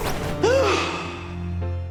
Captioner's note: gasp